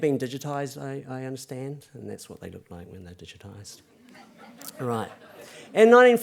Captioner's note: laughter